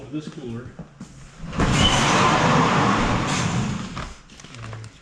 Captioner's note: metal door scraping